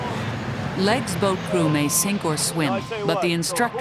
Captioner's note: voiceover